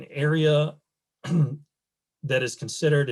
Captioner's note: clears throat